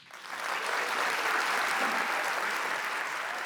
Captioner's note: audience applauding